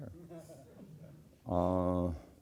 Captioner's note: laugh